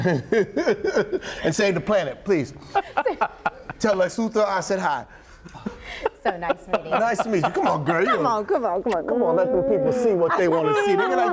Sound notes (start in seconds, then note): 2.7 laughter